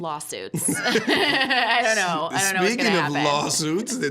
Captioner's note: both laughing